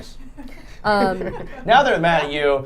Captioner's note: group laughing